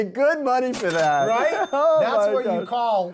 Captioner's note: cash register dings